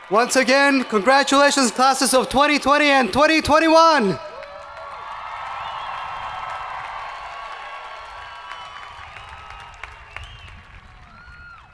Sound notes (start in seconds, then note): 5.3 hands clapping; 5.3 people cheering